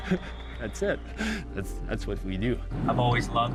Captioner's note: laughs